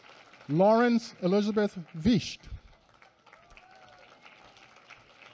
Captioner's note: applause